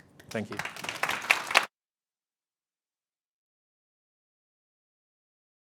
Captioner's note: audience applauding